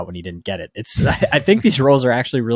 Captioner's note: chuckling